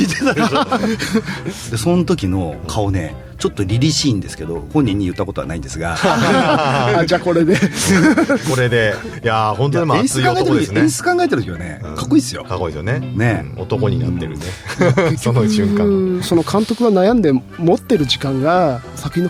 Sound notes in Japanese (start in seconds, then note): 0.0 笑い; 5.9 笑い